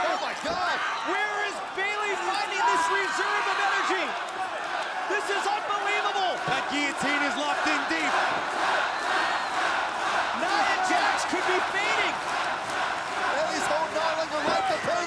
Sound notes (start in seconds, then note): 8.4 crowd cheering